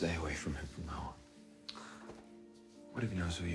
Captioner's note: sighs